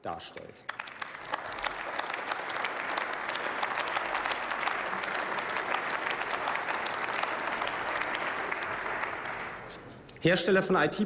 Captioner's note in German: Beifall